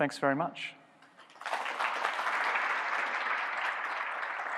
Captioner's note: applauding